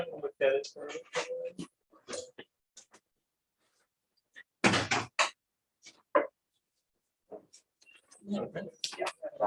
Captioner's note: background chatter